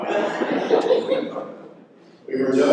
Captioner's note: laughter